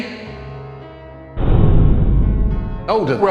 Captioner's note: muffled loud banging noise